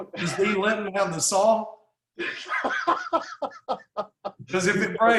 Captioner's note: laughs